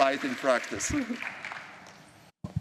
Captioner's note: applause